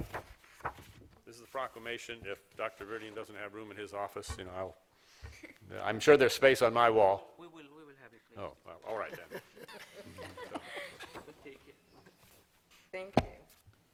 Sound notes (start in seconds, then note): 8.9 laughter